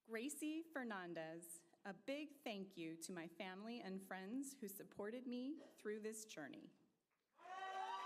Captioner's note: applause